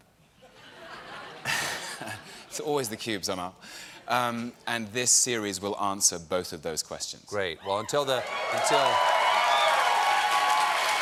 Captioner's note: laughter